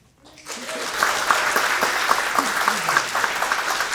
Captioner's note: audience clapping